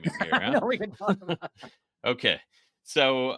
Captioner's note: laughing